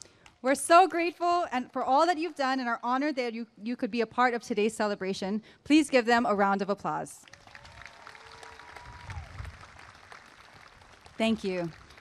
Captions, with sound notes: we are so grateful for all you have done and are honored that you could be a part of this celebration please give them a round of applause [applause and cheering] thank you